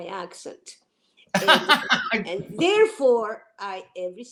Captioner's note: laughing